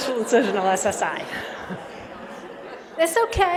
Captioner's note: laughter